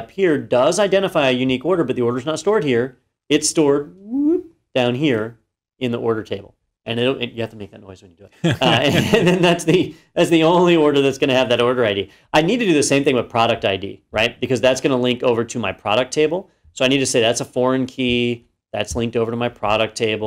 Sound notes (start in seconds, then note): 8.4 laugh